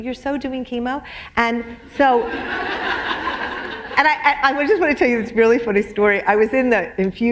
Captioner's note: laughter